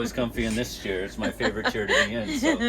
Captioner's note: laughing